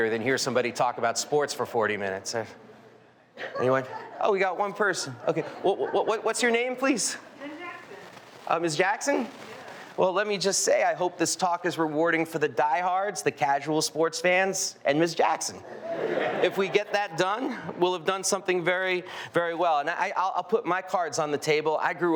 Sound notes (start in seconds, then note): 15.6 audience laughing